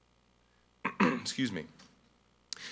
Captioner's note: clears throat